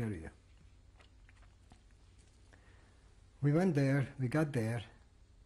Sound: pauses for 3 seconds

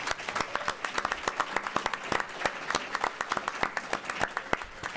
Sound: applause

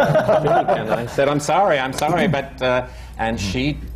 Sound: laughter

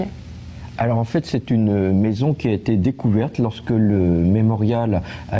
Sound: speaks in a foreign language

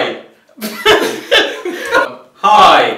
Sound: laughing

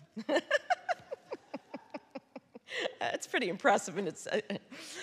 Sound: laughing

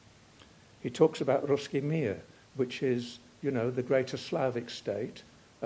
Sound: russian; russian

